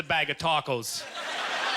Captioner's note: audience laughter